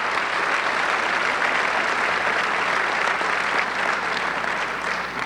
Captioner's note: audience clapping